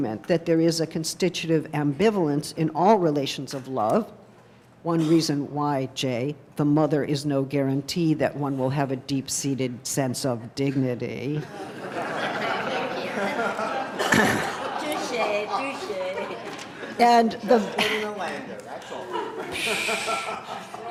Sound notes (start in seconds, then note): 11.5 laughing